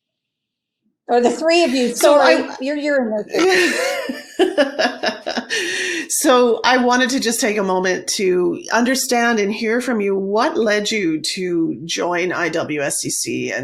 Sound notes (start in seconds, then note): 4.8 laughing